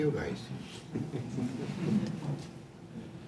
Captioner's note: laughter